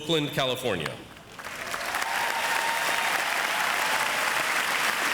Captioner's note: audience applauds